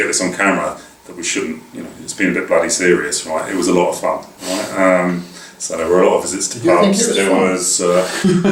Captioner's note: laugh